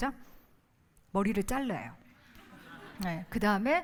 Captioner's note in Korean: 웃음